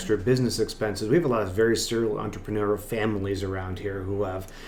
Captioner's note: voice muffled